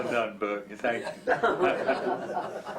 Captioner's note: laughter